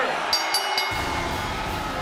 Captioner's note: bell rings